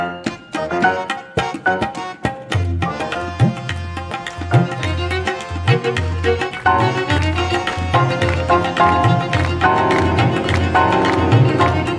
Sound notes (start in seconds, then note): 7.0 audience rhythmically clapping